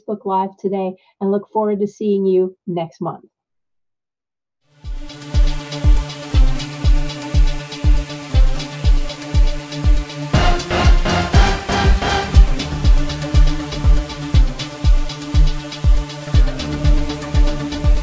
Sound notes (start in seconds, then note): 3.2 silence